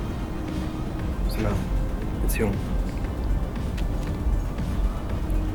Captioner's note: Jonas speaks in German